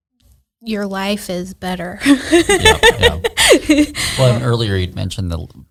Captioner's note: laughs